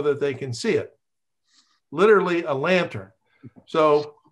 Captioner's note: laughs